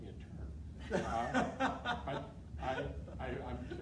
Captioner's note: laughing